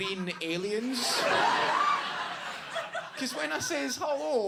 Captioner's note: audience laughs